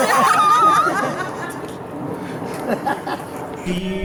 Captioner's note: laughter